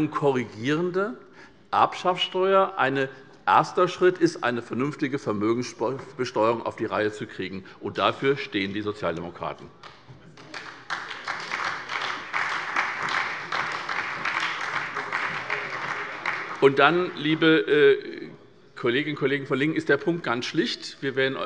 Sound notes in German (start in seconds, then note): 10.3 Beifall bei der SPD